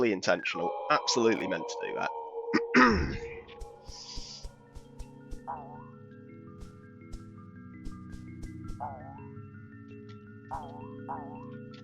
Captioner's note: clears throat awkwardly indicating a lie